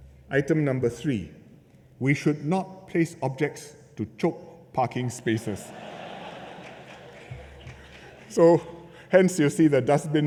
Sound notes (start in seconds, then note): 5.3 laughter